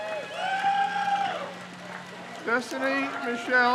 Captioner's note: crowd cheers